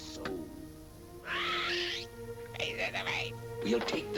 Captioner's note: parrot gawking